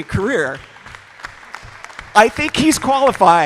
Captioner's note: applause